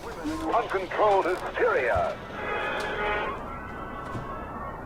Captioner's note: radio Voice